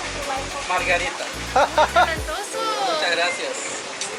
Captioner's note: laughter